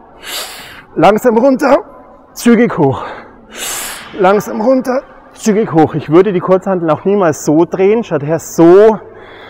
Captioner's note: inhale; exhale